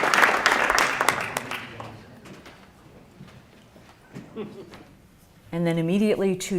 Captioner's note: applause